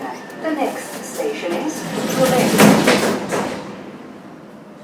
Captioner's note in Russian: закрытие дверей обеих поездов